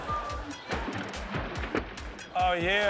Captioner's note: water sloshing